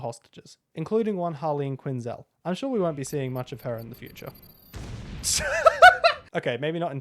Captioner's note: seagull laughter